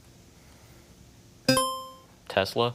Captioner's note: buzzer chimes